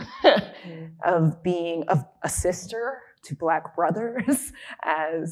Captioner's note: chuckling; chuckling